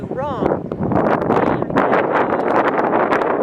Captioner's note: wind